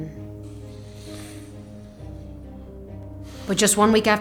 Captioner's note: sighs